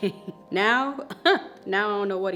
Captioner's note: laughs